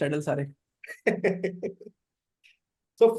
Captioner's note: laughs